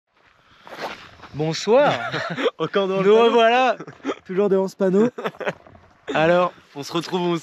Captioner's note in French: rires